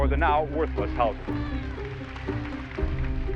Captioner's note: applauding and cheering